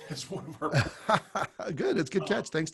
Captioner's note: laughs